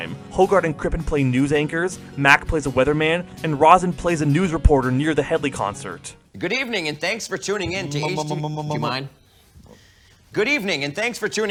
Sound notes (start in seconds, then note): 8.2 stammering